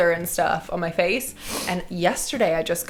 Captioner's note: sniffling